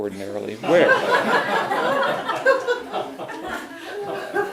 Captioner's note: audience laughs